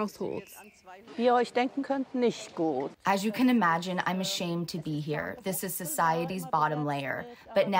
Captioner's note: through translator